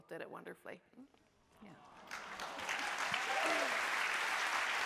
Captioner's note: audience cheering